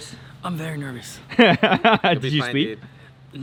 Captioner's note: laughing